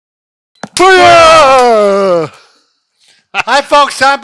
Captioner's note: yelling